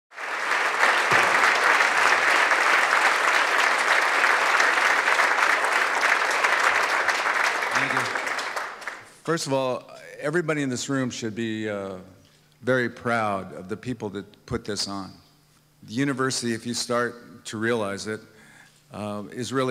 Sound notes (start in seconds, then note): 0.1 applause